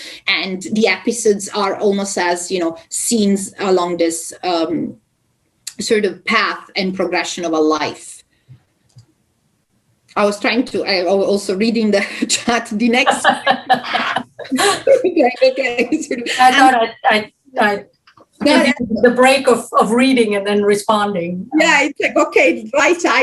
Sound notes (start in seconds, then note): 13.0 laughter